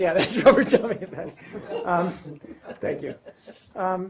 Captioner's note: laughs